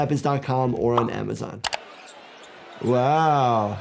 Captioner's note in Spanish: clics del ratón